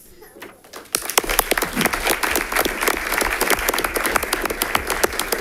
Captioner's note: audience applauding